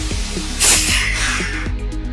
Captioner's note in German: pffft